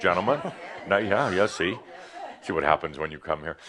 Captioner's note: audience agrees